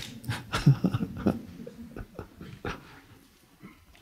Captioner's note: laughs